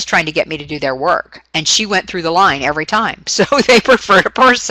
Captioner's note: laughing